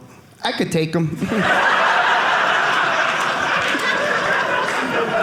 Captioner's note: audience laughing